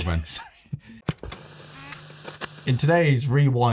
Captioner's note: laughs